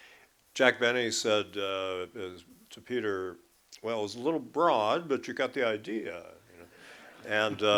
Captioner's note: laughter